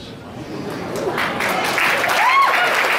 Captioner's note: applause